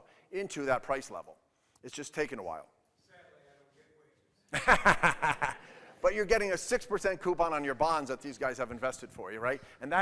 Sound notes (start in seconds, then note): 4.5 laughs